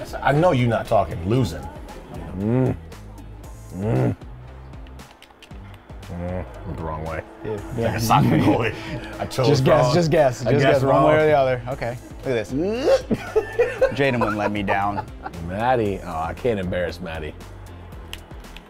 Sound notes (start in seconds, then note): 3.7 grunting; 12.5 laughing